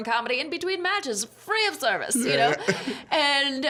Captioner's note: laughing